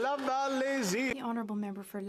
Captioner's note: some Applause